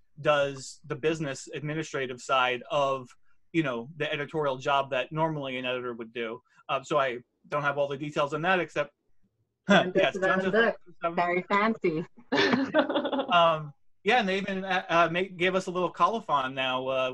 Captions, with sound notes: does the business administrative side of the editorial job that normally an editor would do. I don't have all the details on that except-- - John Joseph Adams Books. So very fancy. (laughs) - Yeah, and they even gave us a little colophon now